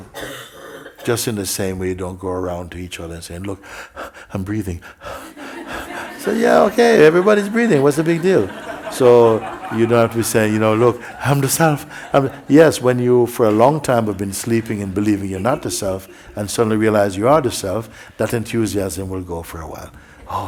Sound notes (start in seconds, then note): 4.8 loud breathing; 9.5 laughter